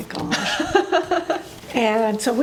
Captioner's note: laughing